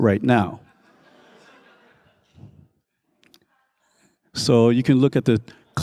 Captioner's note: crowd laughing